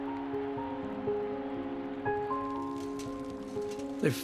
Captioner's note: cheering